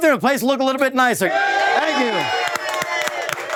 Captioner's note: cheers